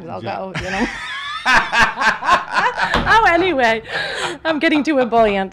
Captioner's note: laughs